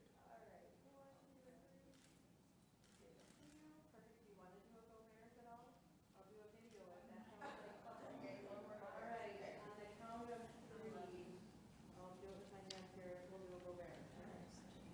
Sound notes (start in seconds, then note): 2.1 camera shutter clicking